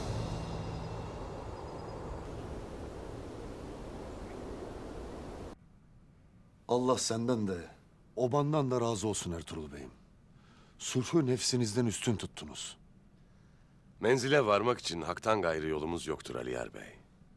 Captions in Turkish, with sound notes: (Rüzgâr sesi) Allah senden de, obandan da razı olsun Ertuğrul Bey'im. Sulhu nefsinizden üstün tuttunuz. Menzile varmak için Hakk'tan gayrı yolumuz yoktur Aliyar Bey.